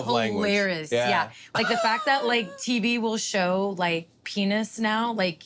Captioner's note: laugh